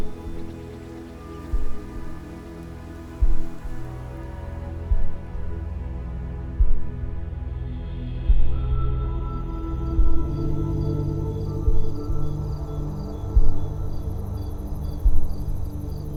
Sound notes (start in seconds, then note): 10.2 gentle electronic music; 10.2 crickets chirp